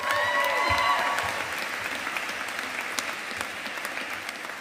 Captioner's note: audience applauding